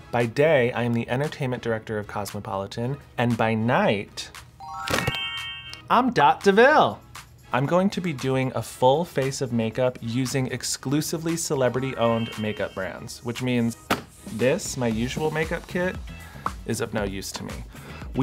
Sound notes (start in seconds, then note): 4.6 sparkles ring